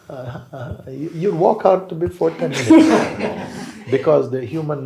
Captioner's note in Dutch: gelach